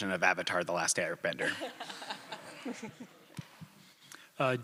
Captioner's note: laughter